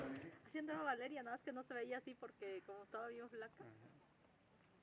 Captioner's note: indistict chattering at distance